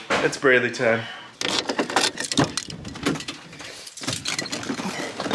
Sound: keys turning

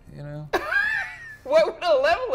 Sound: laughs

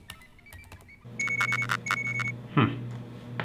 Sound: device beeps

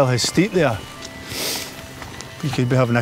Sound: sniff

